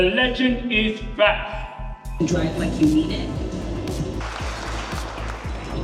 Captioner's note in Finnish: Aplodeja